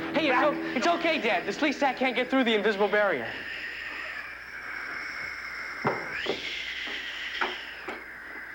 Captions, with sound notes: (intense music) Hey, it's okay, Dad. The Sleestak can't through the invisible barrier. (Sleestak wheezing)